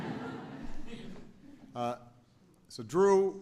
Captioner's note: laughter